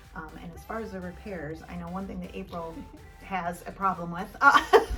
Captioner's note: laughs